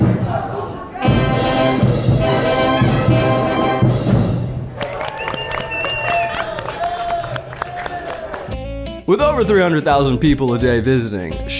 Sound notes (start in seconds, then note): 0.0 big band music continues; 4.7 audience claps